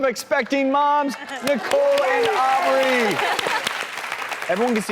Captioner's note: audience applauding